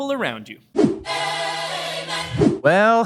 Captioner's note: air whooshing